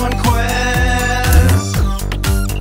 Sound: zap sound

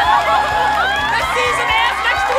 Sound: screams; crying

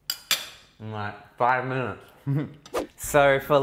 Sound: mouth full

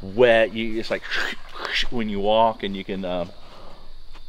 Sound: wet noises

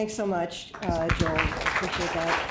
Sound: applause

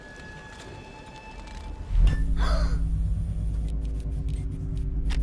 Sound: gasping

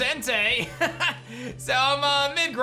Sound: laughs

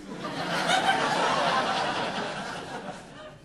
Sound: audience laughing

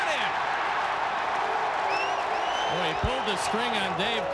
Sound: cwd cheering

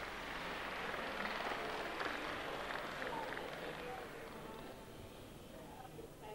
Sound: clapping

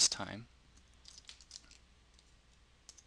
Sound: pause

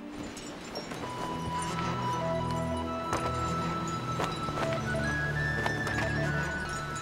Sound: bells tinkling; gentle music

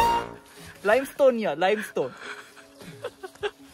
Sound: in Korean

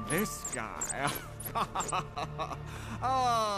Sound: laughs as he proceeds to feel Demon Chad's muscles

